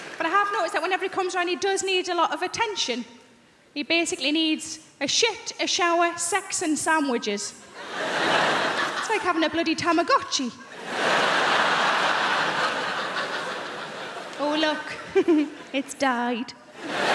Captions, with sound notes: But I have noticed that whenever he comes around he does need a lot of attention. He basically needs a shit, a shower, sex and sandwiches. It's like having a bloody Tamagotchi. (crowd laughing) "Oh look, it's died."